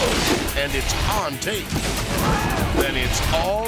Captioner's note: people exclaims